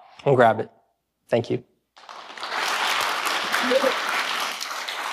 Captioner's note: audience clapping